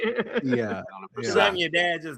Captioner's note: laughing